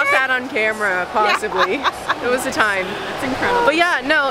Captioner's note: laughter